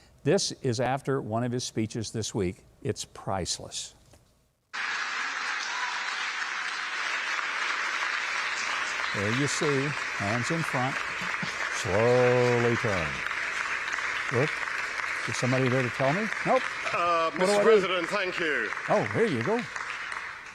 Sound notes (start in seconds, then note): 4.6 cheering